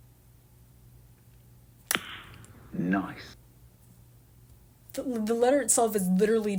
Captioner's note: pop